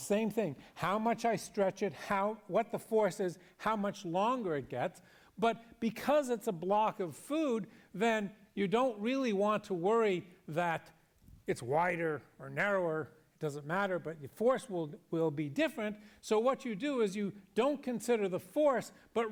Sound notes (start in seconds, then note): none